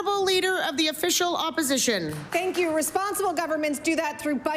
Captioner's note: applause